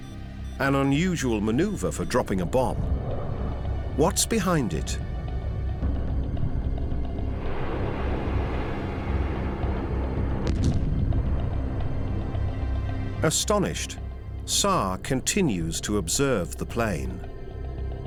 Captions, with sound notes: An unusual maneuver for dropping a bomb. What's behind it? [jet engine roars] [explosion] Astonished, Saar continues to observe the plane.